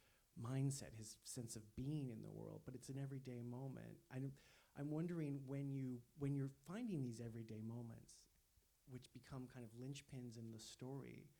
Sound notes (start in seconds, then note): none